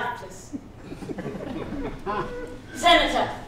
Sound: laughter

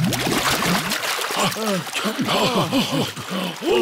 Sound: all puff and pant

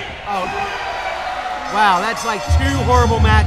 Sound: bell ringing

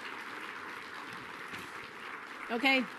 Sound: applause

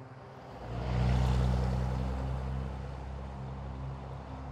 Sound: car engine roars

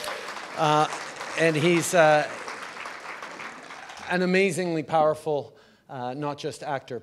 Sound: applause

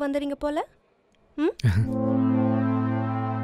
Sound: chuckles

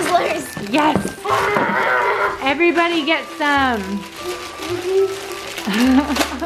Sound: laughs

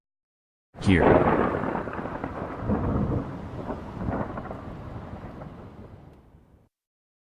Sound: thunder

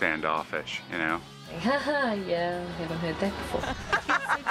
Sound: all laughing; chuckling sarcastically

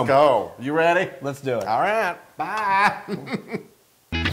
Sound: laugh

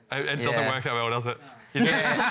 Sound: laughter

